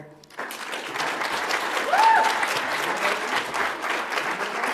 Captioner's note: audience applauds